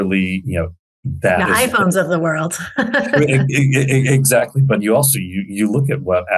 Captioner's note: laughs